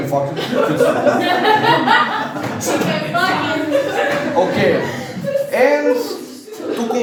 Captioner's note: laughing